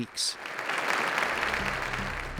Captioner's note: applause